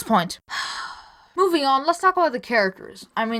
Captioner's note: deep breath